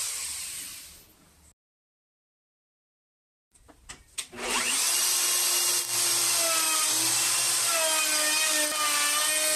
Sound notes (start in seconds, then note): 4.3 machining with a round cutter - router